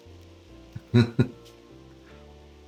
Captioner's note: laughs